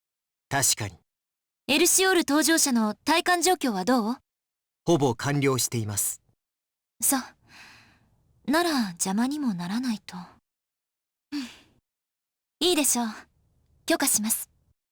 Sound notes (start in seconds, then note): 11.3 breath